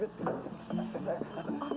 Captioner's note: téléphone vibrant